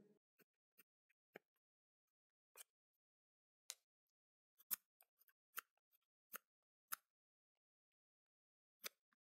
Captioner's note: noises when cutting and cutting the knife with a knife, crease, crease